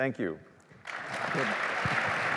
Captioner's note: applause